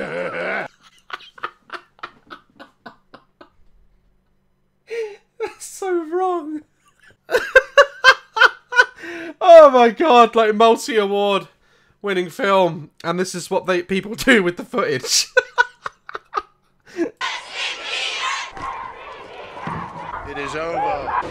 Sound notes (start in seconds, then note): 0.0 laughing again; 15.1 continuous laughter from our boi; 17.2 fangirls chanting JUSTIN BIEBER in the background